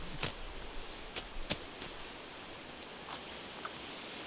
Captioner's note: grass ripping